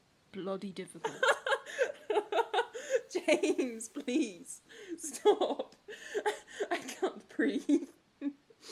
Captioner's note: Regulus laughs